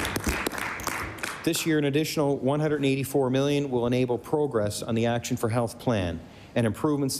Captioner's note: applause